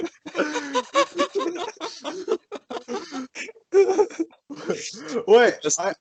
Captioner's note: laughs in hyperventilation